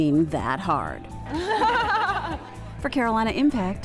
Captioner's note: laughs